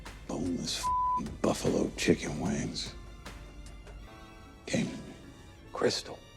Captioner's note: beep